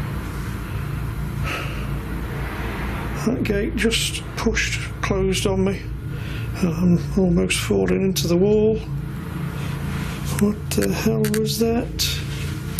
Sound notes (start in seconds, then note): none